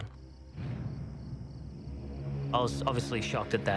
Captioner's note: insects chirping; dramatic music